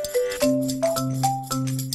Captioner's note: rattle sounds